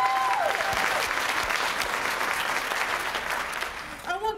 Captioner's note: applause